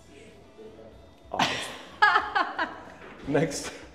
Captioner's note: laughs